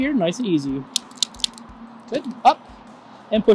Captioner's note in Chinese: 喀嚓的声音